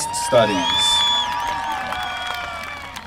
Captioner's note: applause